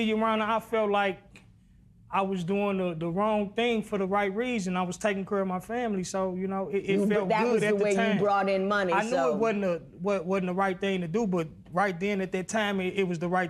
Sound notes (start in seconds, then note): none